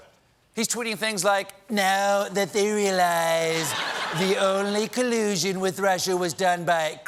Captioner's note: laughter